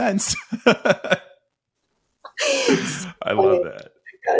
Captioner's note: both laughing